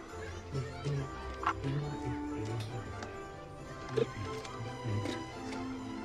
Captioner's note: humming